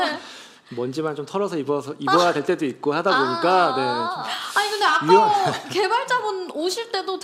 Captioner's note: laughs